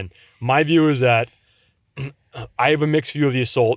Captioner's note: clears throat